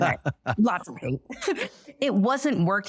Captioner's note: chuckles; laughs